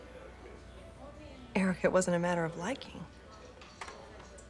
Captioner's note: none